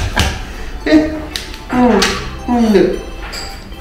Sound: laughs

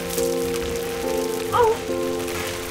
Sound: overwhelmed gasp

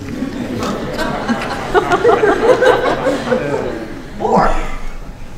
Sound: laughter

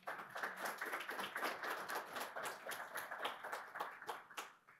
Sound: audience applauding

